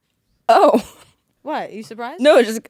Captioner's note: laughing